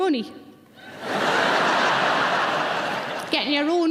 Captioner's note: audience laughing